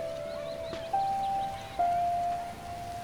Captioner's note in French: gazouillis d'oiseaux